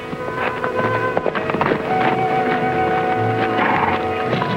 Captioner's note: horse cantering